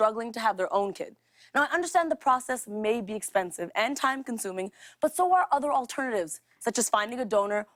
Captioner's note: none